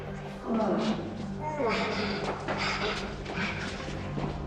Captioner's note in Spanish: Quejidos